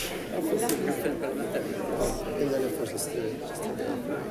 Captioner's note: crowd chatting